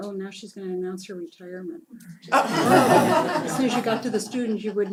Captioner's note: laugh